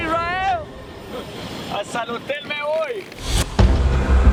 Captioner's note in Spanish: en inglés; en español